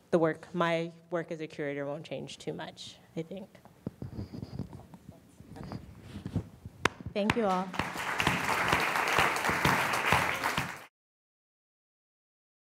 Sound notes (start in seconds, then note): 7.3 applause